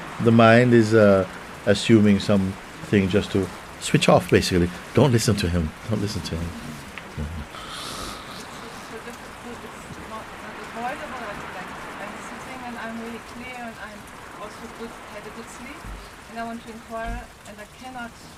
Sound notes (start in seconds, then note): 7.2 snoring